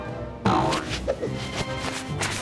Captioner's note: sail boings